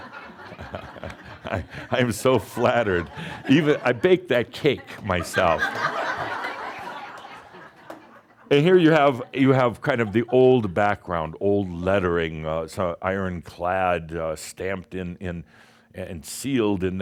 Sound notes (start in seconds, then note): 3.0 chuckles; 6.3 more laughter